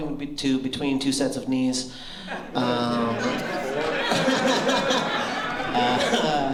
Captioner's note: laughter